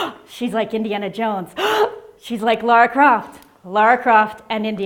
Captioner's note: gasp